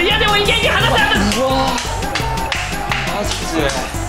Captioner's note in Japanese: 拍手